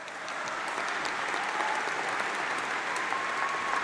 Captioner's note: applause